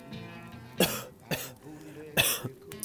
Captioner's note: more coughing